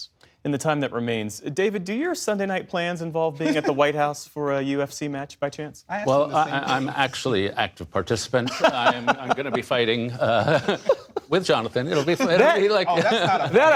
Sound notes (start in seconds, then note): 8.4 laughter